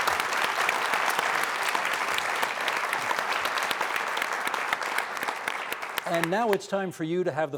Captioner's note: applause